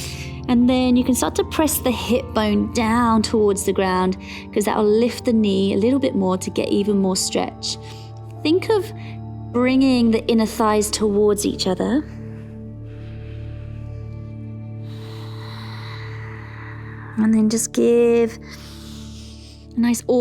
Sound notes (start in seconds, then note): 12.1 inhales; 13.3 calm music; 15.4 exhales; 19.1 inhales